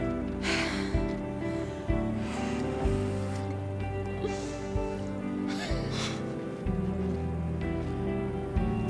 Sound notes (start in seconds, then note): 5.2 scoffing